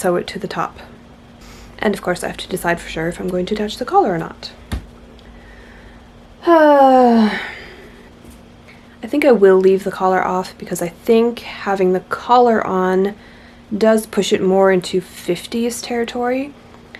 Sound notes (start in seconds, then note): 7.0 heavy sigh